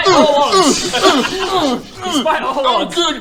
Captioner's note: urgh urrh urrgh; urrgh urgh urghh